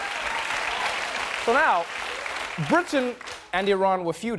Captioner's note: applause